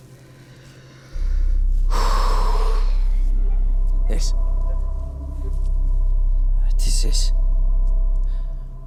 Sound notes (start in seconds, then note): 1.9 exhales deeply